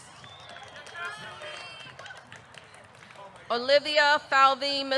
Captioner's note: audience clapping; man whistles